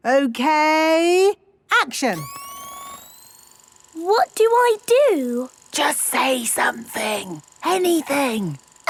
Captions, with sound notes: Okay... Action! - (camera whirring) - What do I do? - (whispering) Just say something. Anything.